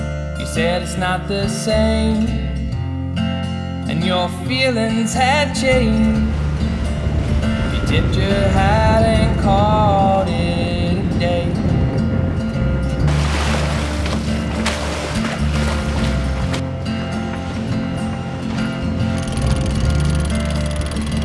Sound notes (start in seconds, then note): 13.5 water splashing; 17.8 gentle guitar music